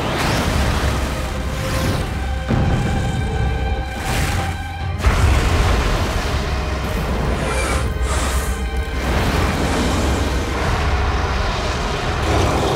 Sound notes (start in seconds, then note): 2.4 crashing